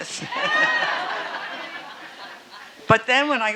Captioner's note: audience laughing